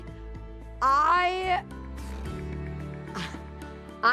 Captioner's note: blows raspberry, chuckles